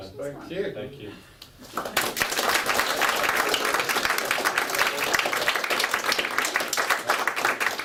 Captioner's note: clapping